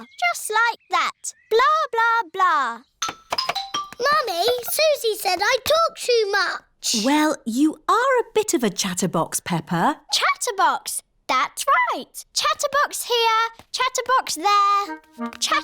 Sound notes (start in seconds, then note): none